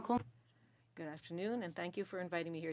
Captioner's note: speaking French